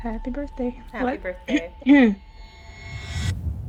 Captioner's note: clears throat